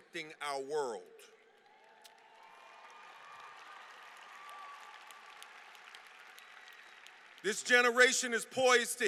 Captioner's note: applause